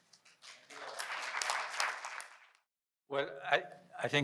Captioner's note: audience clapping